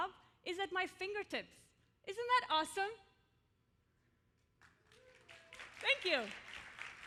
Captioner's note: applause